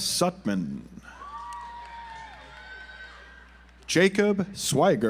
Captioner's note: audience applauds